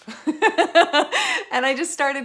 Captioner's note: laughs